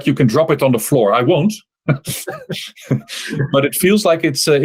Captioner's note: laughter